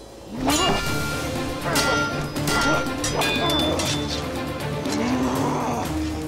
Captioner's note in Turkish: Kılıç sesleri